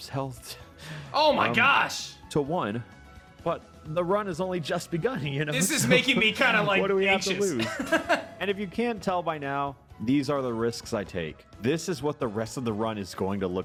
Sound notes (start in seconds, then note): 7.5 laughs